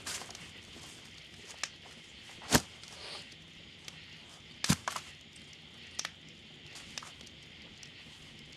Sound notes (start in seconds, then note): 2.5 objects falling